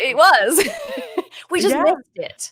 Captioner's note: laughing